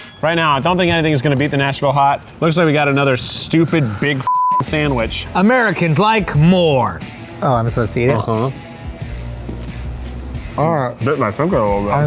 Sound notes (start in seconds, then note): 0.0 quirky music; 4.2 beep